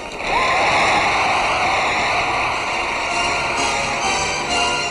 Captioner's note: crowd cheering